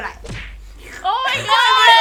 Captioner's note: slurp